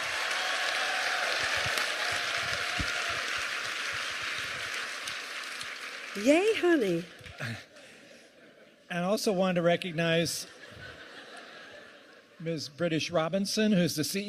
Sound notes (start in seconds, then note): 2.2 cheers and applause